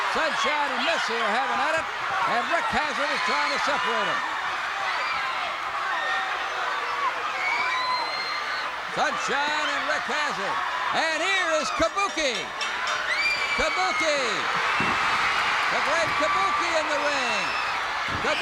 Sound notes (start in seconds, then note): 11.6 bell rings; 14.6 crowd cheers